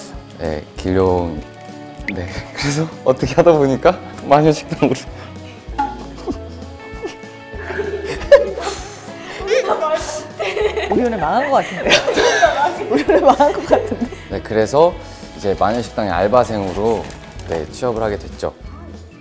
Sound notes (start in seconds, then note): 11.5 hahahahahaha